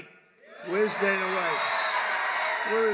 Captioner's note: applause